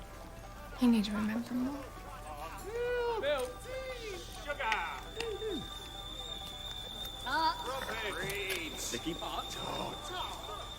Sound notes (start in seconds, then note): 5.1 tea kettle whistling